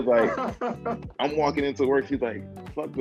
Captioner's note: chuckling